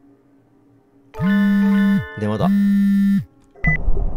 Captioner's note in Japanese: 📲 着信音：ブー！ブー！; 通話ボタン音：ピッ